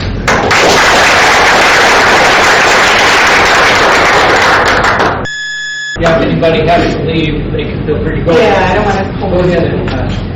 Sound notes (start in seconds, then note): 0.2 audience clapping